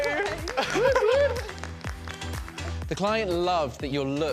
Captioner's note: applause